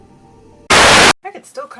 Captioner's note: channel static